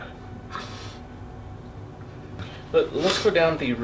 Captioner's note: sobbing